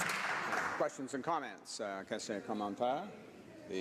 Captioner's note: some Applause